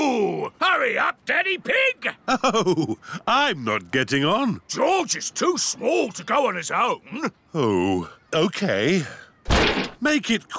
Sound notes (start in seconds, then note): 2.2 chuckling